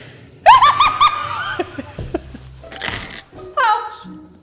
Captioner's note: laughing